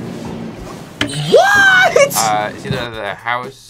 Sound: tense music; bell rings

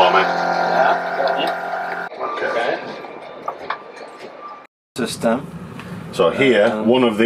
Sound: system sounds

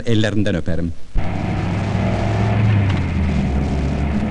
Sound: engine sound

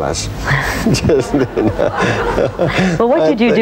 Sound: laughing

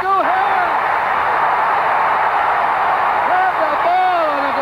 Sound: people cheering

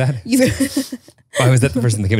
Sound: laughs

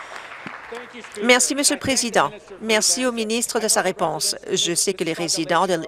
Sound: applause

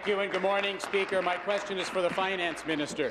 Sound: applause

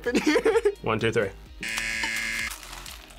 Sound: laughs; buzzer

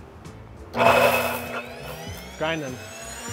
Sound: machine whirring to life

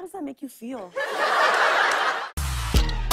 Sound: laughter

